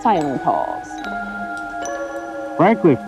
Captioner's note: bell ringing